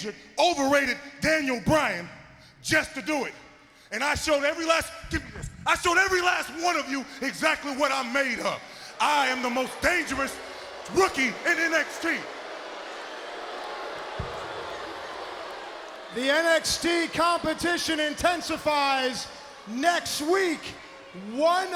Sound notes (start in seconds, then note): 14.4 crowd chatter